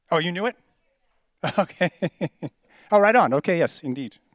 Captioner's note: laughs